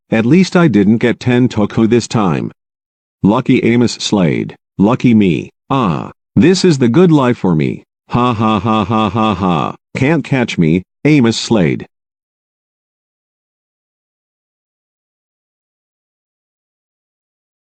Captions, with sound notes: At least I didn't get Tentoku this time! Lucky Amos Slade! Lucky me! Ah, this is the good life for me! (Amos Slade laughs as he runs) Can't catch me, Amos Slade! The End